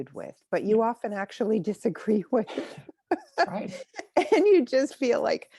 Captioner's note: chuckles